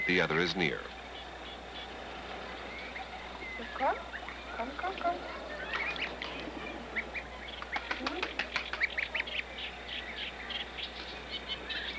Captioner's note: birds Chirping, Researcher Communicating